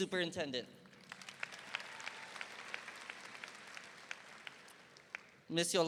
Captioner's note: audience applauding